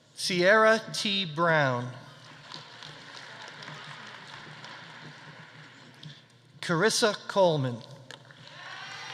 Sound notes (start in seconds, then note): 2.2 audience applauding; 8.4 audience cheering; 8.5 audience applauding